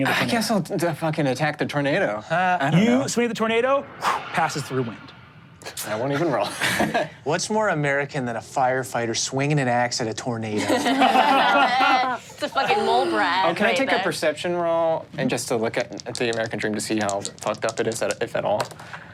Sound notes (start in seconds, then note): 7.0 laughs; 10.6 all laughing